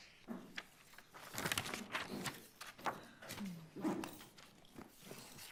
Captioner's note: papers rustling